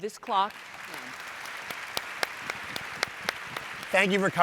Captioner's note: audience applauds